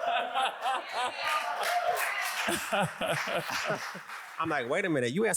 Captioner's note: audience applauds